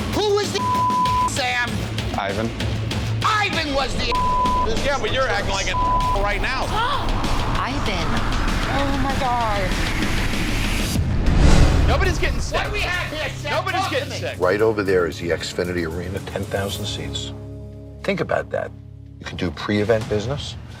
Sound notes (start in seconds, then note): 1.4 beep; 7.0 gasps; 10.0 dramatic suspenseful music